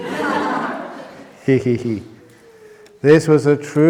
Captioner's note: laughs